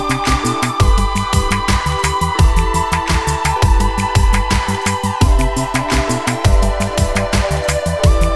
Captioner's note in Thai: ปรบมือ; ปรบมือ